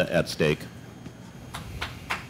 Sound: applause

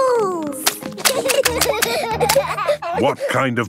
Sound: laughter

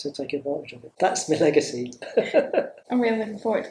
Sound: laughs

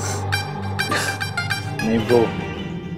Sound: chuckles

